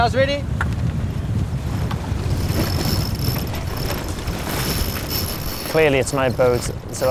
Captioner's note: ropes flapping and winding